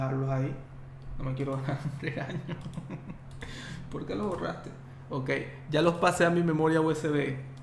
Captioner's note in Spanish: risas